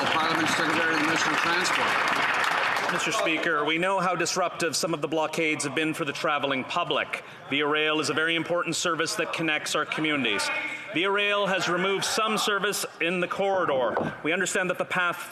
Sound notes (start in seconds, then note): 3.2 applause